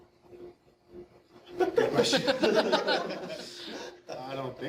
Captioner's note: audience laughing